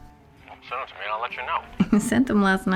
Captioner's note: hawk on phone